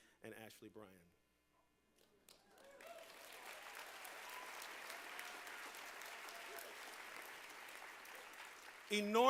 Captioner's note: applause